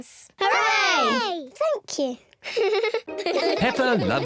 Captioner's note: giggles